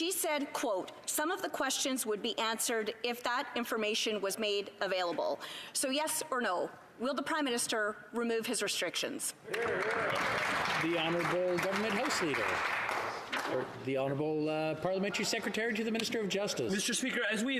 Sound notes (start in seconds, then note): 13.0 some Applause